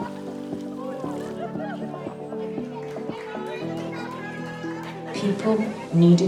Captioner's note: cheering, whooping and laughing